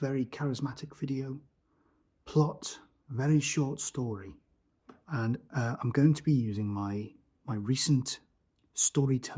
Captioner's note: said charismatically